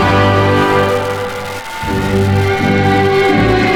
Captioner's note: attendees cheering; ceremonious music